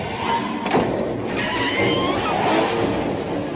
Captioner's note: tires screeching